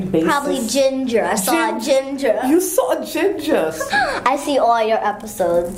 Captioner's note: laugh